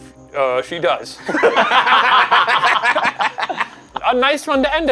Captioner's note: all laughing